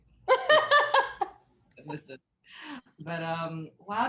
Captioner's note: laughing